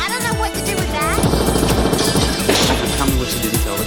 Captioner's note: gunfire